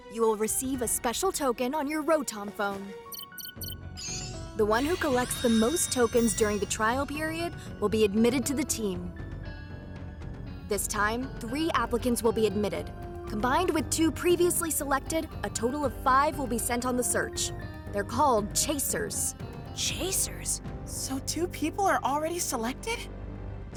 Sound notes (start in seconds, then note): 3.1 Rotom Phone beeping